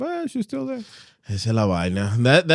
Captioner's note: speaking In Foreign Language